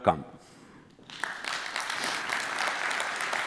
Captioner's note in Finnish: Applause